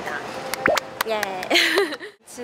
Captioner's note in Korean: 박수